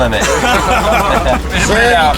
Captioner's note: crowd laughing